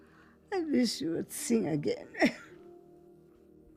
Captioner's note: Zora coughing